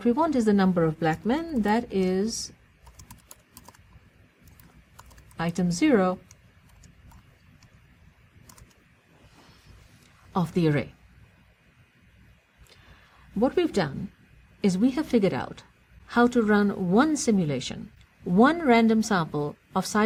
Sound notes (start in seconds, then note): 3.3 pause